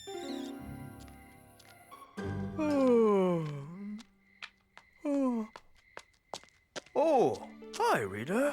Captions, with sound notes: [ Yawns ] - Oh! Hi, Reader.